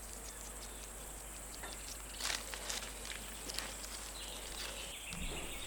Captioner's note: birds chirping